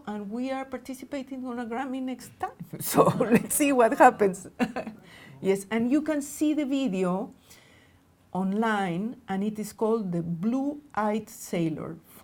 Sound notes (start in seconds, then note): 4.2 laughing